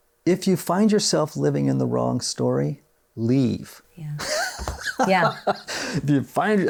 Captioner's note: laughs